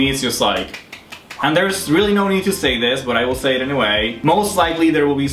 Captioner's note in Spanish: aplausos